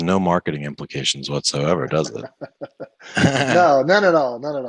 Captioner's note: laughs